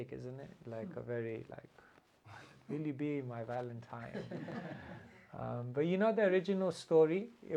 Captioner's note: laughter